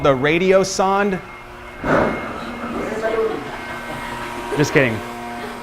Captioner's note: machine whirring